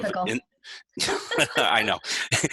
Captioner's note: laughs